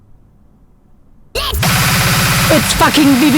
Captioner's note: distorted audio